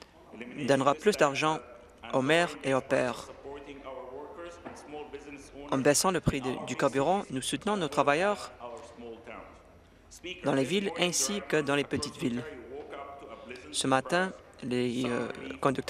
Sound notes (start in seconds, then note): none